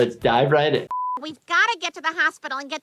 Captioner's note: high pitched beep